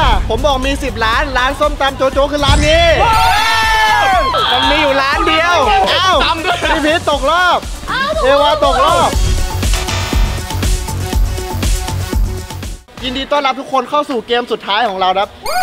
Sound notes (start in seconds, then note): 2.9 cheering